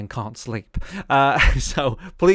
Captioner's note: laughs